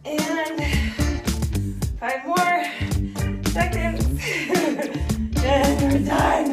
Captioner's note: laughing